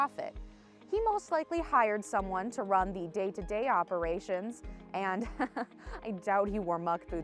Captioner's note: laughs